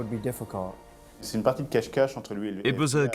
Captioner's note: non-english speech